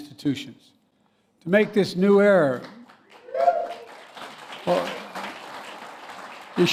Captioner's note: applause